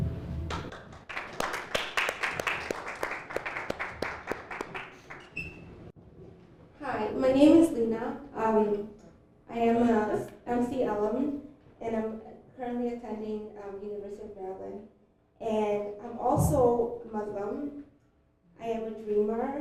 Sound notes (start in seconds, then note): 0.4 applause